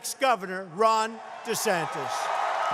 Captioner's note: cheering and applause